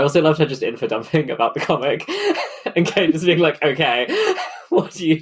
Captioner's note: laughing